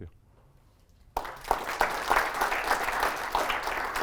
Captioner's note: applause